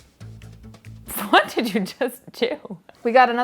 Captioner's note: laughing